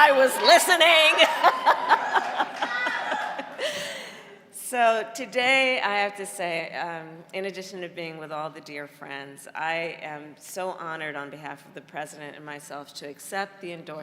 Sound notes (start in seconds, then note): 4.5 laughter